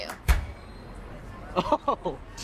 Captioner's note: man laughing